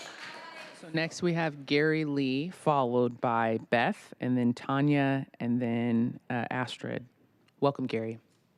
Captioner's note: applause